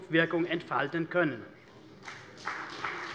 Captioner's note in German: Beifall CDU und BÜNDNIS 90/DIE GRÜNEN